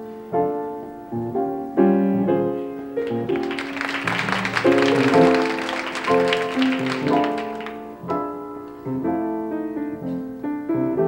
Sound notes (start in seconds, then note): 3.0 crowd applauding; 7.0 upbeat piano music